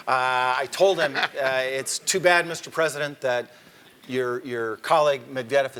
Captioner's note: laugh